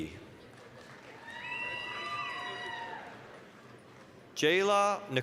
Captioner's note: applause, cheering